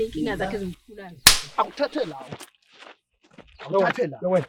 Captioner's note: smack